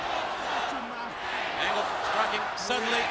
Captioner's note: crowd chants "Angle sucks"